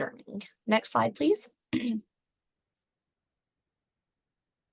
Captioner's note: clears throat